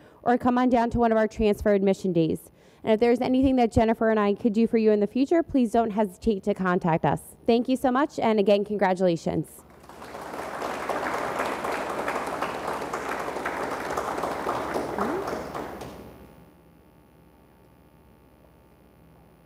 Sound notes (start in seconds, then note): 11.5 audience applauds